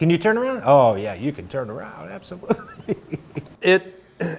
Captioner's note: laughs